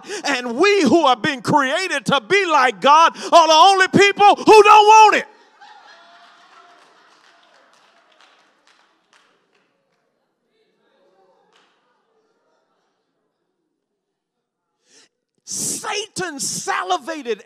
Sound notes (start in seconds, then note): 5.8 congregation laughs and cheers